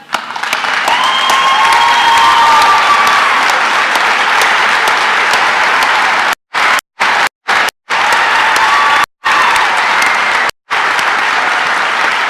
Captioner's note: cheering and applause